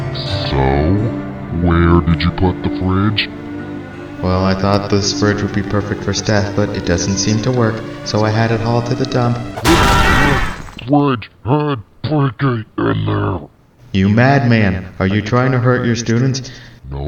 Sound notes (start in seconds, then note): 9.6 coach elson grunts, principal screams